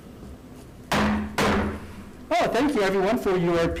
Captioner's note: gavel banging